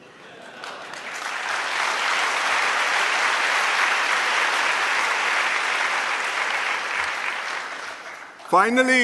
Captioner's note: laughter and applause